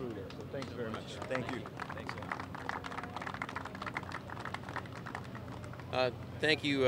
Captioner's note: applause